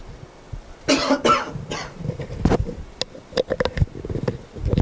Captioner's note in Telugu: దగ్గు